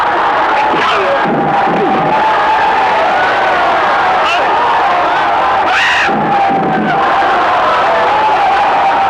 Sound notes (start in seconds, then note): 1.0 crying out; 1.0 whacking